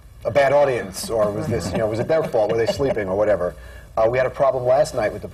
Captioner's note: laughter